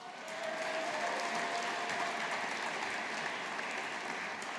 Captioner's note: audience applauding